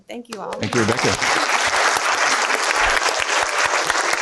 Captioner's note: applause